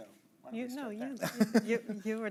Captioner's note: chuckling